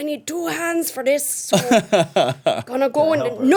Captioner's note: Iculus laughing